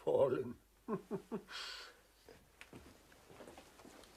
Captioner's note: chuckles